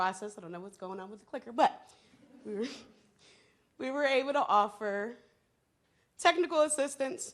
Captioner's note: laughs